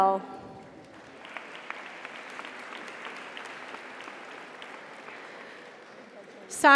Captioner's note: audience applauds; audience cheers